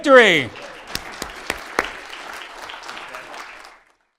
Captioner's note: audience applause